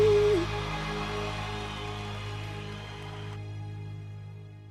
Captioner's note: clapping and cheering